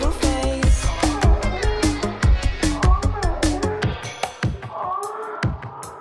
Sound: woman moaning in background

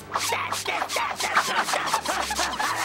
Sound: screaming

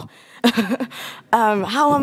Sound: chuckles

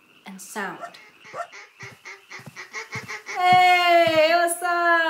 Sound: quacking

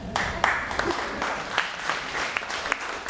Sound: applause

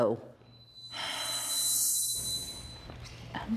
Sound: sighs

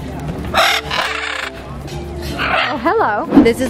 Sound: birds squawking

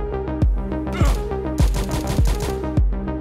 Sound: gun fire

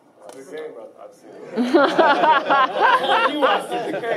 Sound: laughing

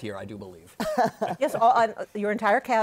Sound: laughter

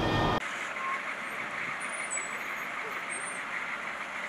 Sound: military vehicle’s engine runs and breaks squeal

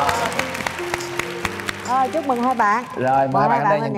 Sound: cheering

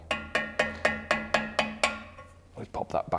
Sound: hammering

